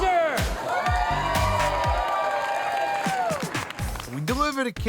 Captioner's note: crowd cheers